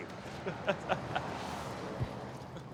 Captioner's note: laughs